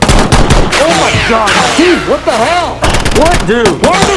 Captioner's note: bullets whizzing closely